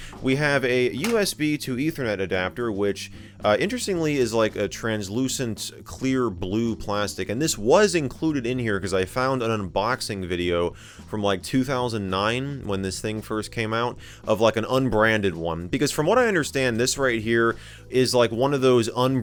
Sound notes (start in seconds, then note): none